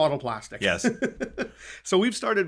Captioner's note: laughing